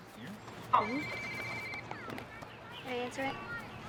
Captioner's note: cellphone ringing